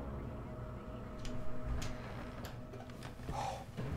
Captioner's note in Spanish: La puerta se abre